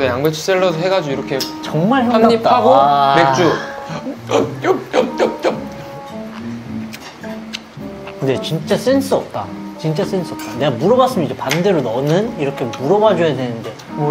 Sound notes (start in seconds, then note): 6.8 chewing